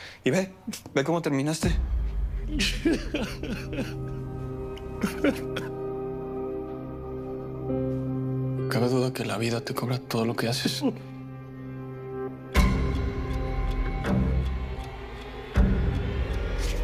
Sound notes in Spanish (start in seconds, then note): 2.7 Sollozos